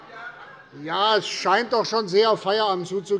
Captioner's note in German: none